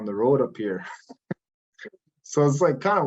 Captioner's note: laughs